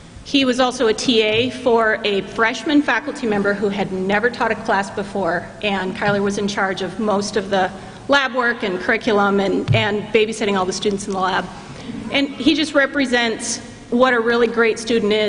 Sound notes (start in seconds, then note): none